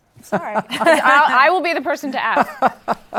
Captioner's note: laughter